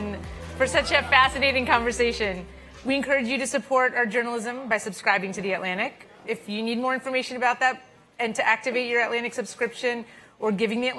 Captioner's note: applause